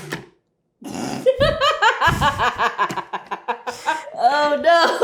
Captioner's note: laughing